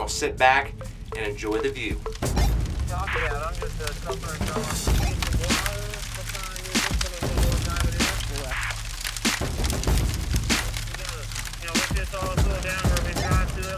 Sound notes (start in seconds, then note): 8.6 radio chatter